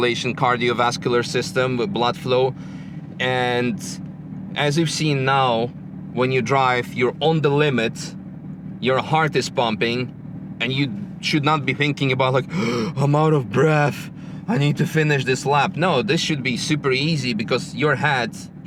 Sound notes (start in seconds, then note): 12.4 gasps